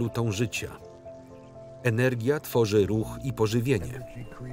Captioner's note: birds chirp